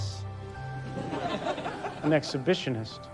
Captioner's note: audience laughs